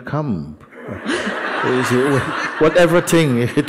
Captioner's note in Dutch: gelach